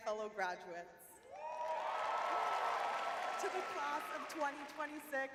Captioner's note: audience cheering